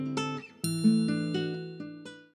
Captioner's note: relaxing guitar strumming; bell chime